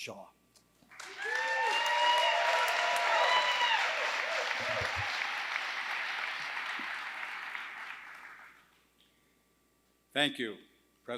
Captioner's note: applause